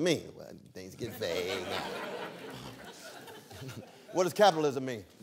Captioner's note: laughter